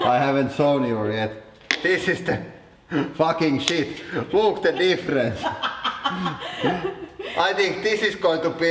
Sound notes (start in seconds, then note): 4.6 laughing intensifies